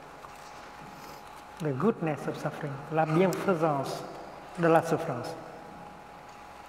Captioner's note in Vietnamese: Tiếng Pháp